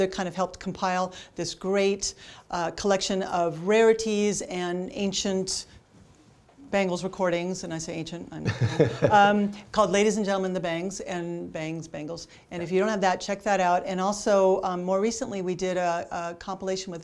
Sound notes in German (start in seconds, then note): 8.4 lachen